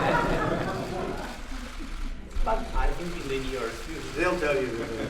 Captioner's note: laughter